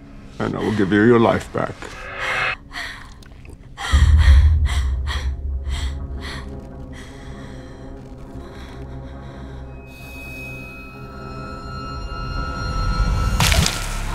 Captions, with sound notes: ...and I will give you your life back. [GASPING] [CRUNCHING]